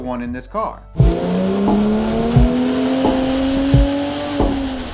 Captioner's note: car engine roaring